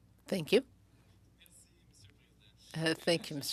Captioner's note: speaking French